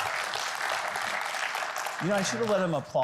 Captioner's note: audience applauding